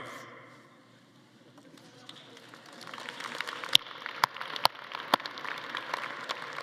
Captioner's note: attendees applauding